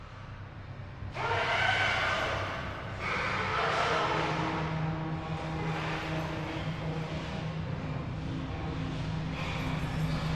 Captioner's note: screaming